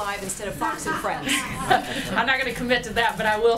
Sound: laughter

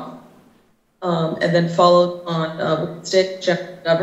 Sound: faintly speaking

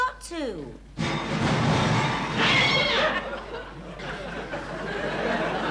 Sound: audience chuckling; crashing, cat screaming

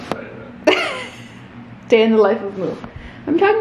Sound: laughs

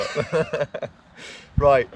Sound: laughing

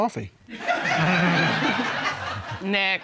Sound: laughter

